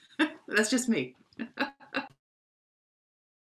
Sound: laughs

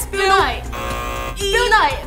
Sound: buzz

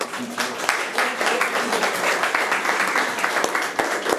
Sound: room applauds

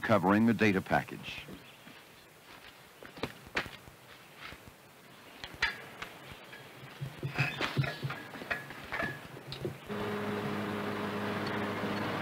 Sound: automobile sounds

